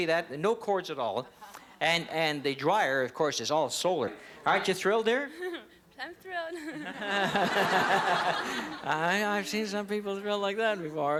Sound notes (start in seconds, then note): 6.8 audience laughter